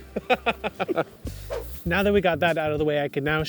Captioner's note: laughing; air whooshing